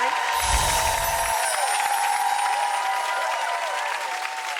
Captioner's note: audience cheering; animation whooshing